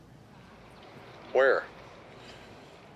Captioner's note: on phone